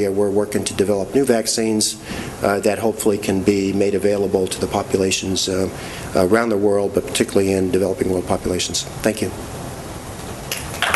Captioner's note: clapping